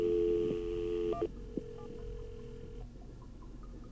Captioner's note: line ringing